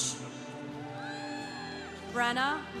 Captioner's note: congregation applauding